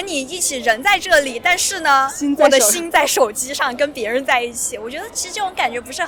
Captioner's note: talking